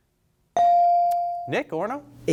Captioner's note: bell sounding